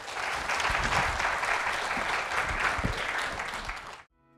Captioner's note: applause